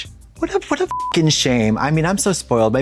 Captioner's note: beep